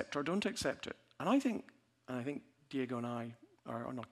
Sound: none

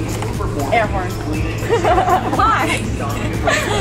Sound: laughs

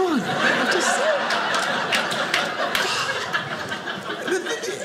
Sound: audience laughing

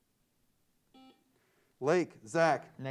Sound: buzzer sounds

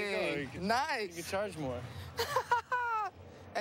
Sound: laughs

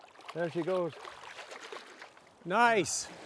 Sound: splashing

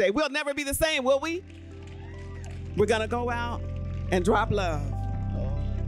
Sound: applause

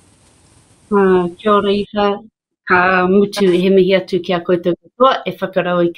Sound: speaks maori

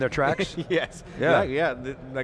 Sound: chuckles

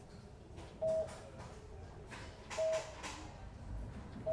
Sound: patient monitor beeps

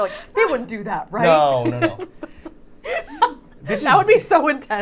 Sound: Safiya laughing

